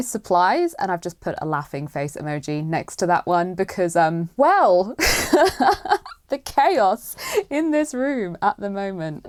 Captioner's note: laughs